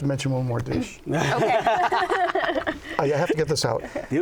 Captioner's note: laughter